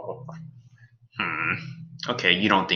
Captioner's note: Alien Space Doggy whimpers; groans